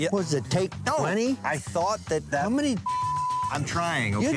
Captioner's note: beep